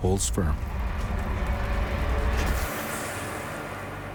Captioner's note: water hisses